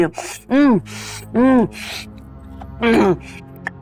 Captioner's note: moans